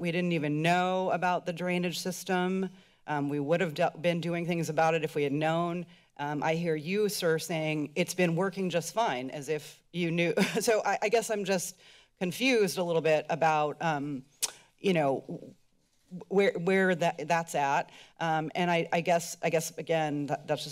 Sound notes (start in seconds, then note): 14.4 tongue clicks